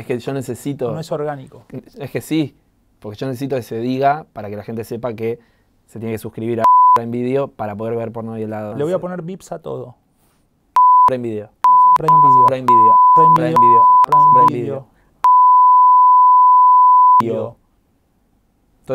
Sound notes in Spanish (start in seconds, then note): 15.2 beeeeeeeeep